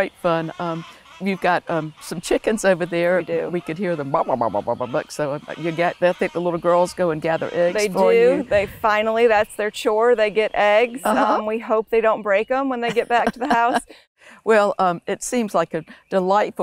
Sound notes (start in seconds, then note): 2.7 mimics chicken sounds